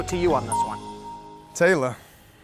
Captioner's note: pleasant dings